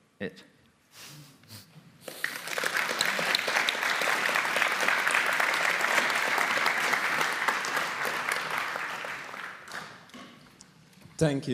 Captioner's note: applause